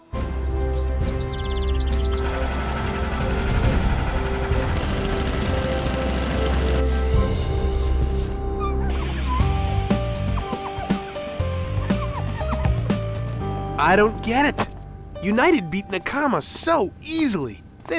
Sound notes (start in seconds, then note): 2.0 motor sounds